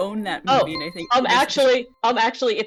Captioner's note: buzzer